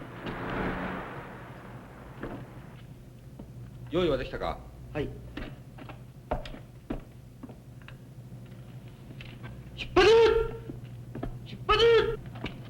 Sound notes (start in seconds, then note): 3.4 speaking japanese